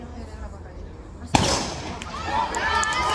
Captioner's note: gun goes off; heavy cheering